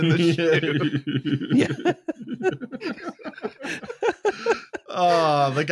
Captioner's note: laughter